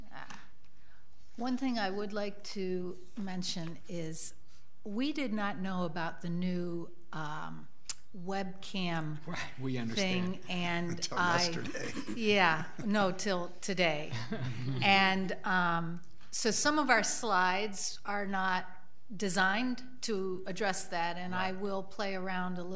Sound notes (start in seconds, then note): 10.8 laughing